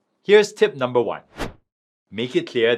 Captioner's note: transition whooshing